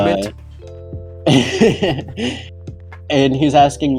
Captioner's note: laughs